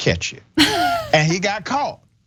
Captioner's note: laugh